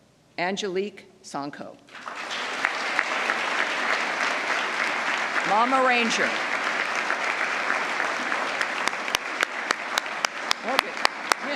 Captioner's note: applause